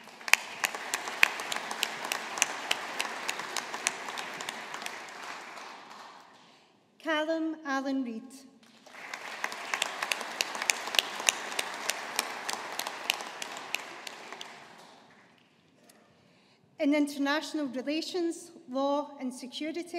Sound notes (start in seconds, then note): 0.0 audience applauding; 8.7 audience applauding